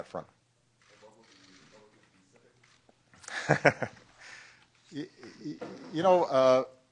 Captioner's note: laughter